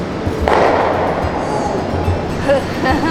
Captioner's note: curling stones banging; chuckling